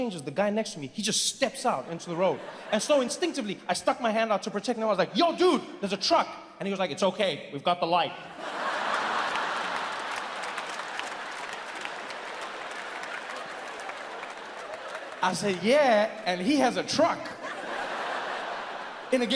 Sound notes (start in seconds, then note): 8.3 audience laughs and applauds; 17.2 audience laughs